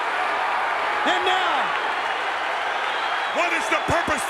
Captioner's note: applause